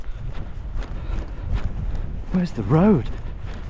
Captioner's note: breathing heavily; feet stomping